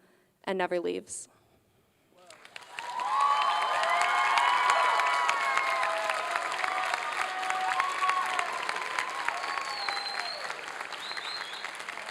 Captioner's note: applause and cheering